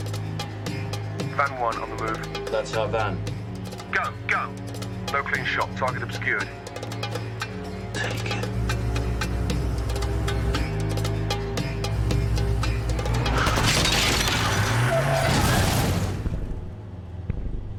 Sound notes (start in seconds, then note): 0.8 man over radio; 3.7 man #2 over radio; 7.1 quietly